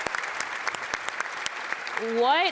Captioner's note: audience applauds